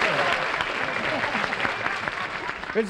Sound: applause

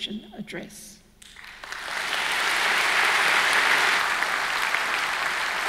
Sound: audience clapping

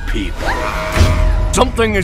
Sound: screaming

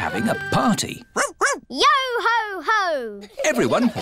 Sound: barks

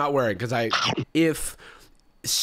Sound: chomp sound

